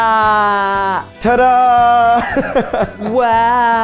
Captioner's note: laughs